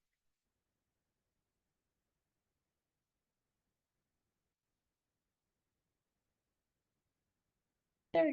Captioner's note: silence